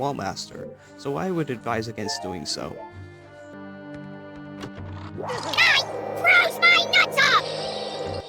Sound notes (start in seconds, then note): 5.8 high Pitched